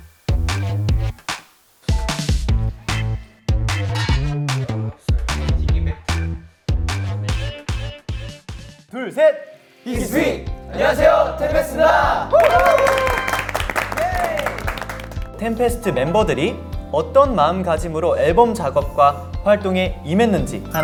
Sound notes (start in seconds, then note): 11.9 excited cheers